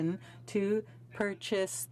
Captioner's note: speaking in french